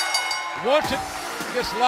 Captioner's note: bell ringing